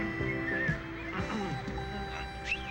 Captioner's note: whistles